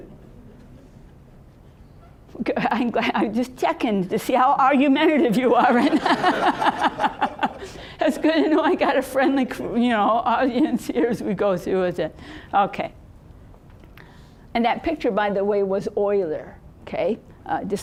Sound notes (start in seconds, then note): 0.1 audience chuckling; 5.6 audience laughing